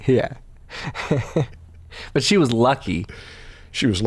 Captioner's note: chuckles